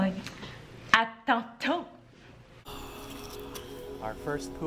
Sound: speaking foreign language

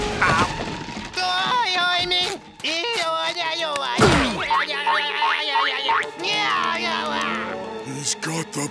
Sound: babbling

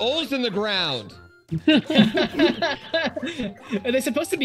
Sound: giggles; laughs; giggles

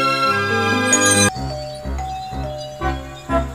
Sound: doorbell dinging

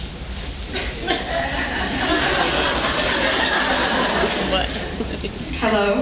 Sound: scattered laughs

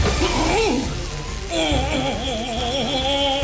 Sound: grunting

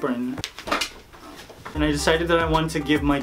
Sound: shuffling items around

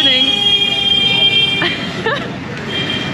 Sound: horn honks

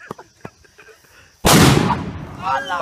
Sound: boom!

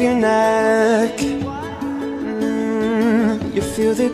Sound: echoes

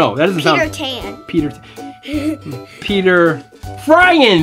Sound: giggling

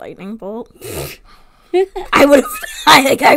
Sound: laughs

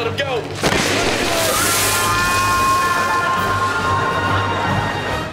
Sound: screaming

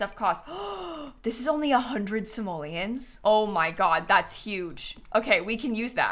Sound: gasps

